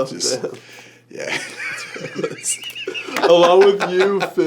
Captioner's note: laughter